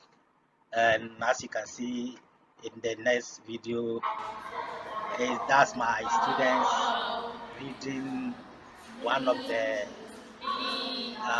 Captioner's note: students reading alound in class in Dagbani